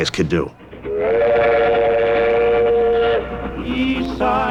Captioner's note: whistle Blowing